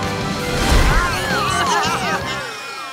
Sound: bleating

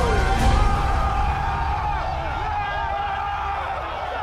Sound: cheering

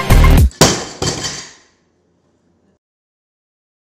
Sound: feet stomping; weights clanging

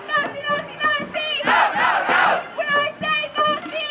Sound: crowd

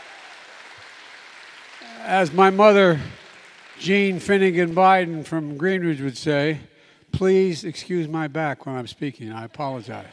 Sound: applause

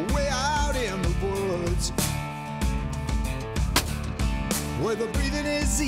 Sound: gunshot

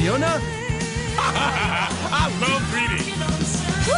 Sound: laughing

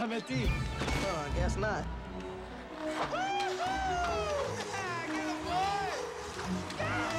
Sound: Dwayne Whooping

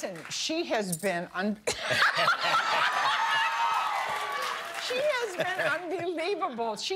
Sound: cheers and applause

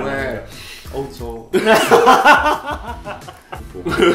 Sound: sniff

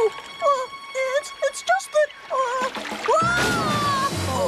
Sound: none

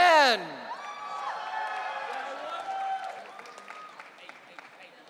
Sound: audience cheering

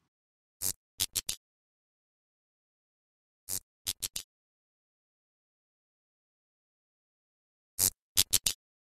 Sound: desk light flickering

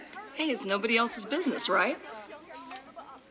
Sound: hands slapping; women chattering

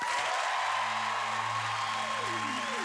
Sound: cheers and applause

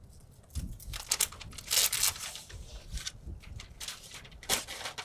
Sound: paper crackling

